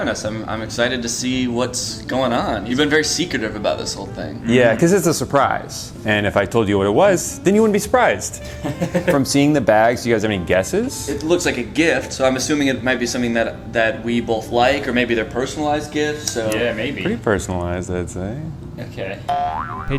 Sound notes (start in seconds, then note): 8.4 chuckles; 19.3 spring boings